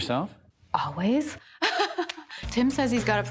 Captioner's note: laughs